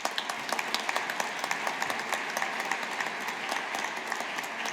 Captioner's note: audience applauding